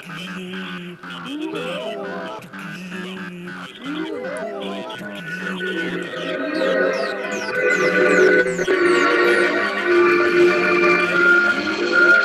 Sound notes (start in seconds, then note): 7.5 buzzer